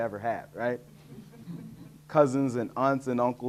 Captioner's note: audience laughing